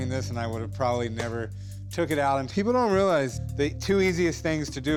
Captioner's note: none